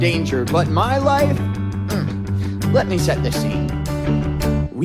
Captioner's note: hums